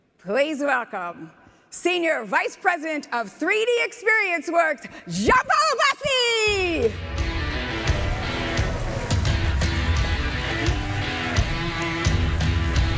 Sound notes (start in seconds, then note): 6.6 energetic music; 7.2 electricity fizzing